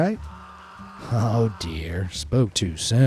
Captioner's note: person screaming